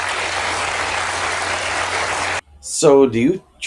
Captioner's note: applause